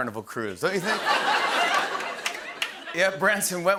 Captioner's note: laughter